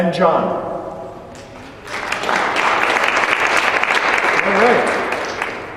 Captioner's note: applause